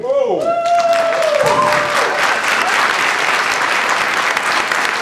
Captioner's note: audience applauds